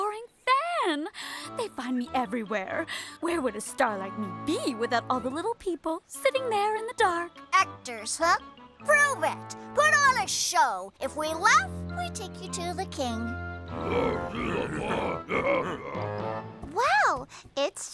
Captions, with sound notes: THEY FIND ME EVERYWHERE! WHERE WOULD A STAR LIKE ME BE WITHOUT ALL THE LITTLE PEOPLE, SITTING THERE IN THE DARK? ACTORS, HUH! PROVE IT! PUT ON A SHOW! IF WE LAUGH, WE TAKE YOU TO THE KING. [MUTTERING] WOW! IT'S SHOWTIME! [GIGGLES]